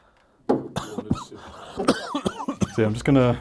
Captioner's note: coughing